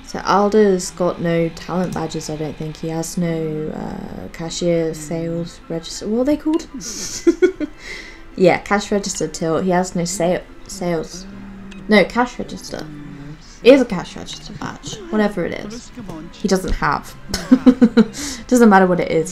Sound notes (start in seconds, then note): 7.0 laughs; 17.5 laughs